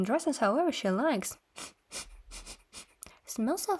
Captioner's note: sniffs